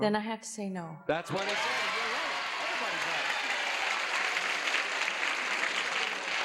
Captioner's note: audience cheers